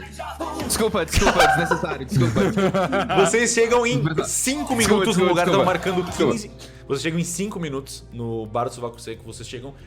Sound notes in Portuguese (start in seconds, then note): 1.2 Risadas